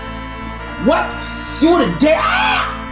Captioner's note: bird sound